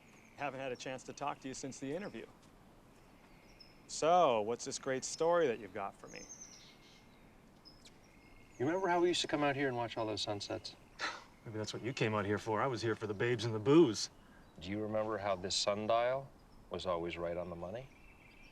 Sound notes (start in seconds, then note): 7.1 bird chirp